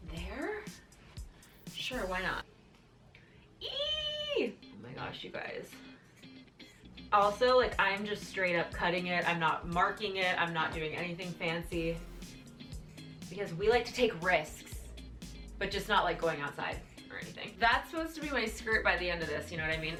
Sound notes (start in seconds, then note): 3.7 squealing